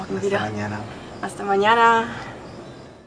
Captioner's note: in Spanish